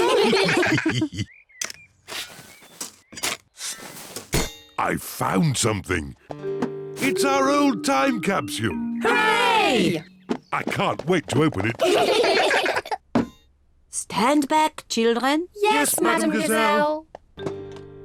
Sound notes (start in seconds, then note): 0.0 all laugh; 11.6 all giggle